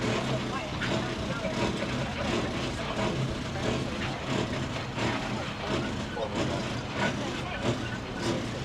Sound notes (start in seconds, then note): 2.8 people chattering; 2.8 tram rattling